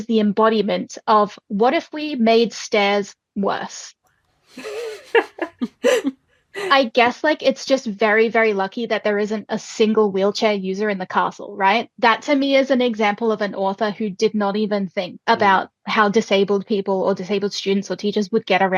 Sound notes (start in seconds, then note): 4.6 laughing